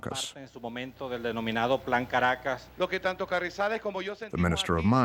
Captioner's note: speaking in Spanish